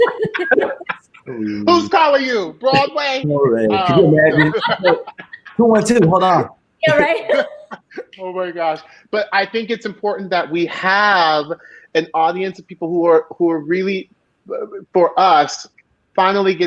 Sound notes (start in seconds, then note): 3.3 all laughing